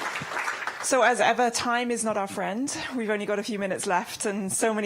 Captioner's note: applause